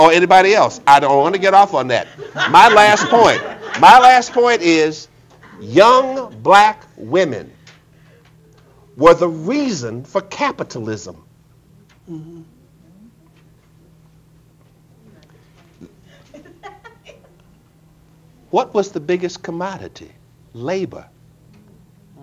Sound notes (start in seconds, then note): 2.0 audience laughing